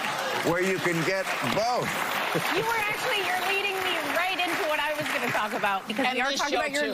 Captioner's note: laughter